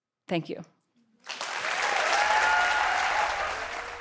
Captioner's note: applause